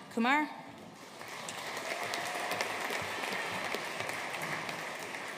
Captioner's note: audience applauding